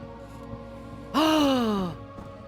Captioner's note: soft music plays; gasps